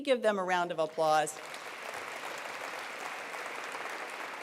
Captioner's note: applause